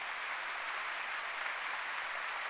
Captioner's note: applause